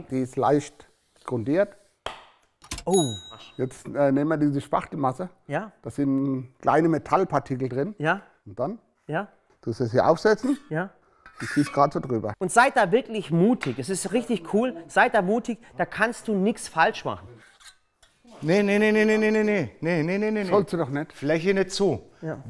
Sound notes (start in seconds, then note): 2.8 Klicken, Klingeln